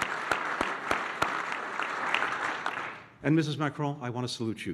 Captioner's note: applause